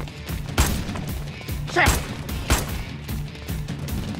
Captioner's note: Bullets firing